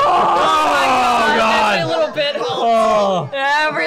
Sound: yelling

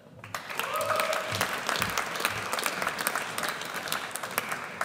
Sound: audience cheers

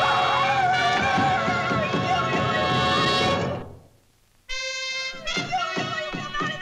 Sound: squealing

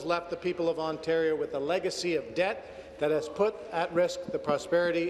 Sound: some Applause

